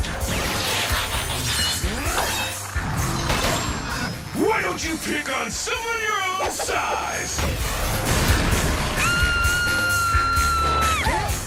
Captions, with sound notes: (YELLING) Why don't you pick on someone your own size? (SCREAMING)